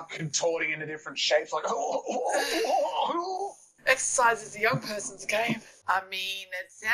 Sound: makes old people noises

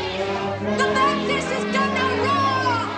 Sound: crowd chattering

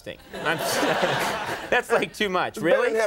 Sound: audience laughing

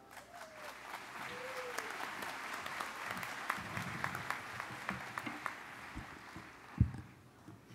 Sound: applause

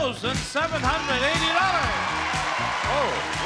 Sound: audience cheering

